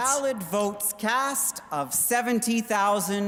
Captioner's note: speaking french